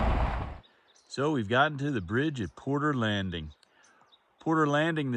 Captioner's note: gravel crunching